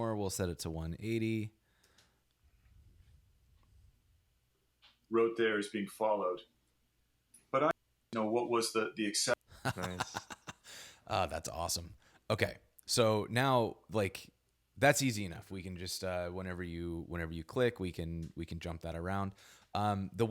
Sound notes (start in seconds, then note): 5.2 podcast Voice; 9.5 laughs